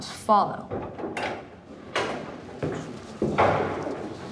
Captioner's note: door rattling